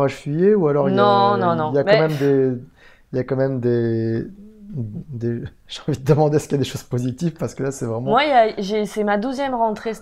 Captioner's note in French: rire; rire